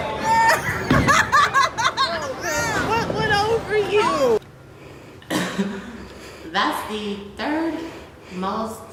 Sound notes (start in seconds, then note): 0.3 laughs; 4.8 laughs